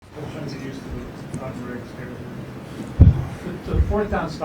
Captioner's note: background chatter